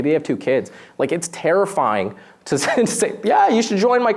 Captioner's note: laughs